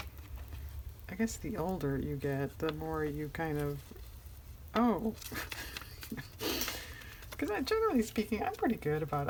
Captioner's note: laughs